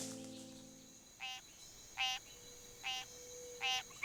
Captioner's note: swamp sounds